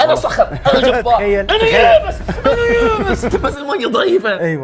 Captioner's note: repeats in fury